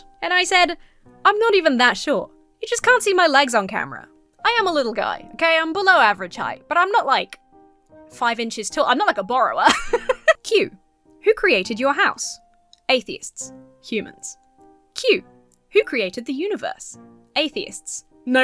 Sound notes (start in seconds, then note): 9.6 laughs